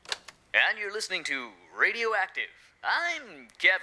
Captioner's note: Kevin on Radio